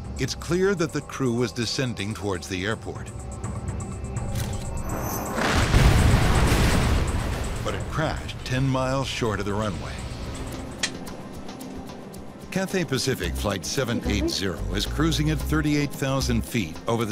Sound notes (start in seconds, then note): 3.9 camera shutters; 4.9 plane crash